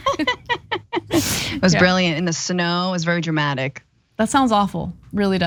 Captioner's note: laugh